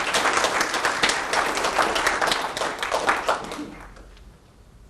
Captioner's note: applause